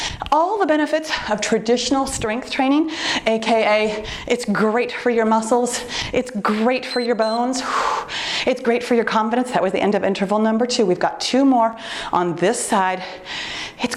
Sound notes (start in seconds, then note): 6.8 timer beeps